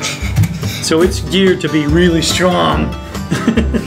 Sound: laughing

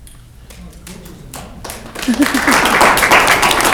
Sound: clapping

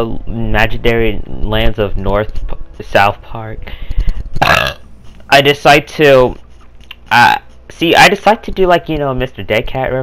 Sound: burps

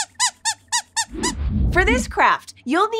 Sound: squeaks squeaking

